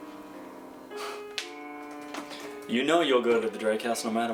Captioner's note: scoffs